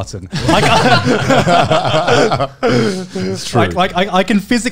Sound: all laugh

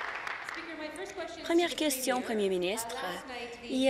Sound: applause

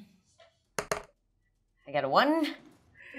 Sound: dice thudding

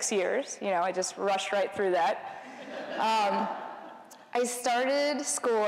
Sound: laughter

